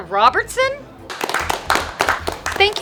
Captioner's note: applause